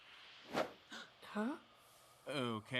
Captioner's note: gasps